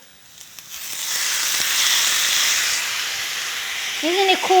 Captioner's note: food sizzling